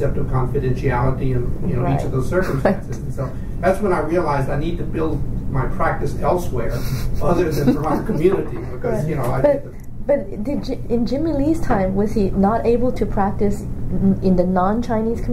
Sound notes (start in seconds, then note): 6.7 laughs